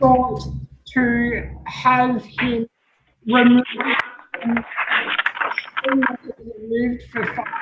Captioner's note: audio distorted